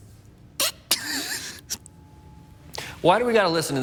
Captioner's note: crying